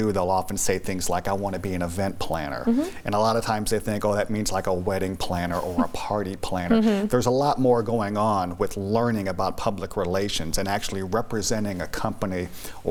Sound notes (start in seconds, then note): 6.7 laughs